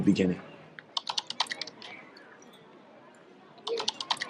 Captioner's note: texts click